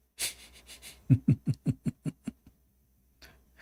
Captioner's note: Ketawa